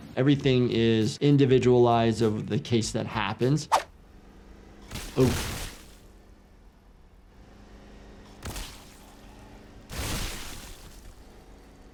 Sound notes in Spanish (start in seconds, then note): 5.7 choque de metal